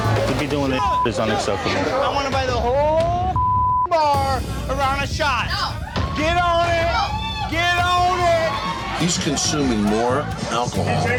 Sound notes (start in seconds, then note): 0.8 beep; 3.3 beep; 5.0 bar patrons yelling